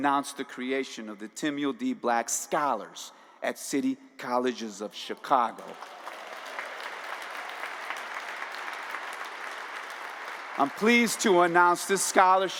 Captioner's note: applause